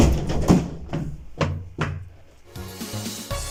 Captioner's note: yeeting Cuki noises